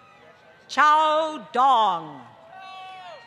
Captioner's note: applause